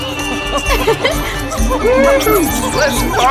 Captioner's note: giggles